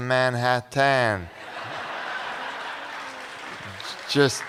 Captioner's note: laughter